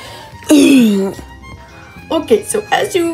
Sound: sounds of death

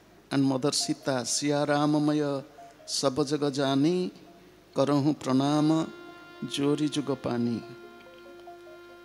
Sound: Hindi

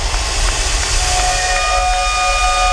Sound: loud whistle

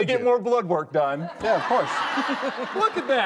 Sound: audience laughing

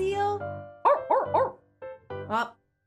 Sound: barks

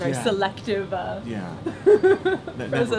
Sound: laughs

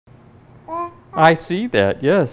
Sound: babbling

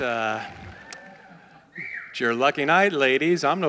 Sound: cheers and applause

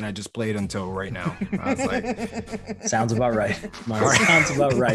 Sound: laugh

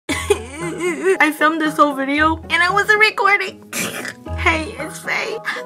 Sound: euuhhhh

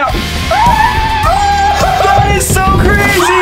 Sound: screaming

